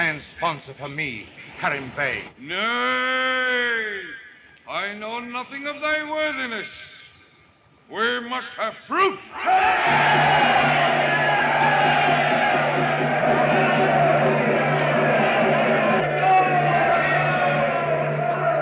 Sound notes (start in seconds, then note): 10.3 all cheering